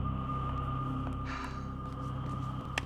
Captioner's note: sighs